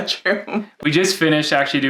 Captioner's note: laughing